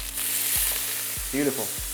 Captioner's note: sizzling sound